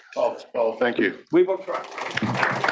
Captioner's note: applause